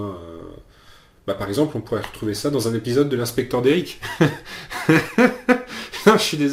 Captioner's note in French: rires